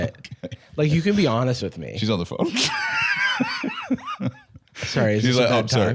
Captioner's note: laughs